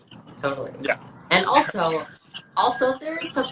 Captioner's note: laughs